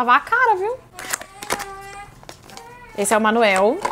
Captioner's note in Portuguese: Choro ao fundo